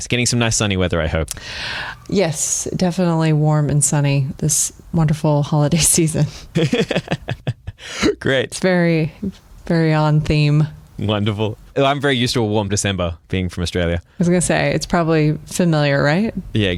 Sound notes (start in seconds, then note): 6.5 laughing